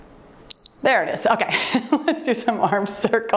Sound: timer beeps; laughs

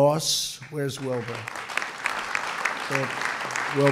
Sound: applause

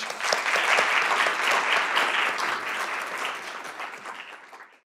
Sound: clapping

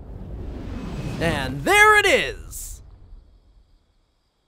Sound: woosh

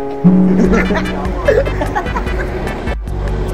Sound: music; laughs

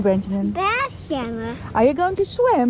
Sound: speaking Dutch

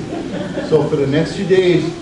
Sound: audience laughs

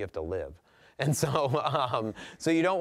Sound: laughing

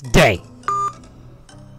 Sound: the phone beeps as the call ends

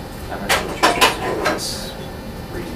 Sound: sound of water running in sink

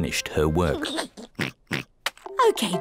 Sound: giggles and oinks

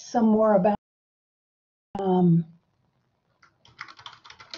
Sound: keyboard clacking

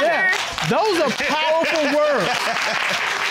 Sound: laughing; audience clapping

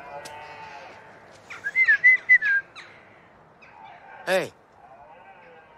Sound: whistles

